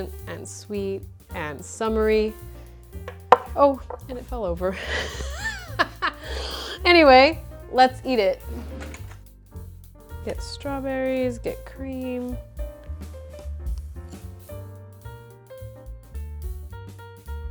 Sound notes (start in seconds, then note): 4.8 awkward laughter